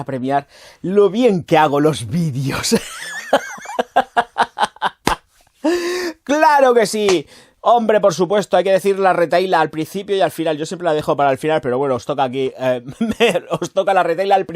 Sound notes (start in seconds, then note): 2.5 laughs